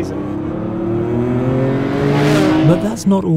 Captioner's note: car engine revving